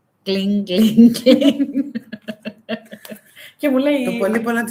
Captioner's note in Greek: γέλια